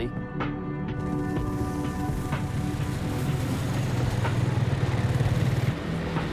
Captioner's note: gentle music; engine revving